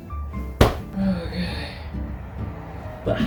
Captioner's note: exasperated sigh